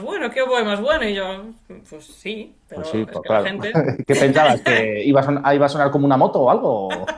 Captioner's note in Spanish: risas